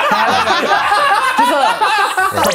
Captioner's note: laughs